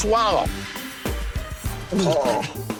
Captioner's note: gulps